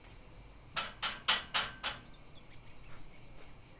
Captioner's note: knocking